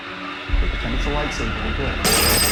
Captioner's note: mutters to himself